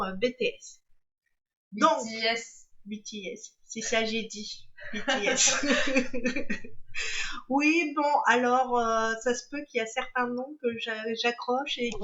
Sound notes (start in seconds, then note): 4.9 laughs